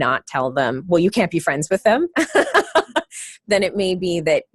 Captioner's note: laughter